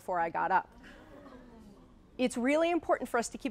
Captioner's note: audience laughing